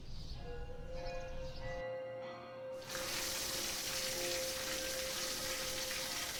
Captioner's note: birds chirping; ringing music; water hissing